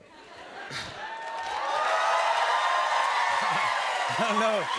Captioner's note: cheers and applause